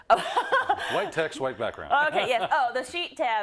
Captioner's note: laugh